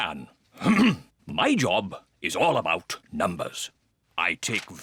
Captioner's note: clears throat